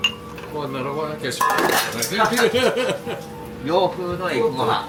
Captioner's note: laugh